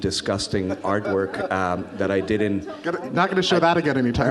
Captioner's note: audience laughs